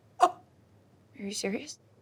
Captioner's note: person gasping